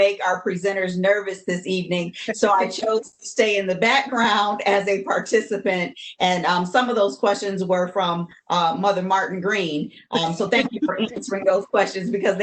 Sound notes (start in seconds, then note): 10.1 laughs